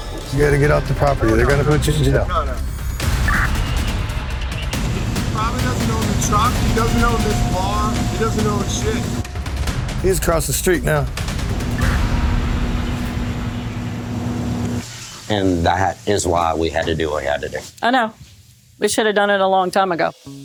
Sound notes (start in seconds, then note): 3.2 radio chirps